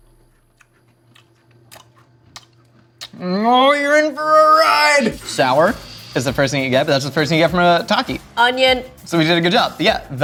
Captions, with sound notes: (lips smacking) Oh you're in for a ride! Sour is the first thing you get. That's the first thing you get from a Taki. - Onion. - So we did a good job, yeah.